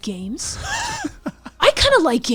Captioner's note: laughs